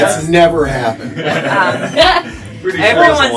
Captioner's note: laughter